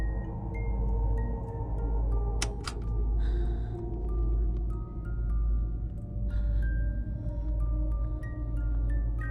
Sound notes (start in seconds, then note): 2.4 button clicks; 3.2 soft melodious music; 3.2 tense ominous music